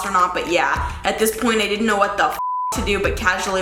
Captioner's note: beep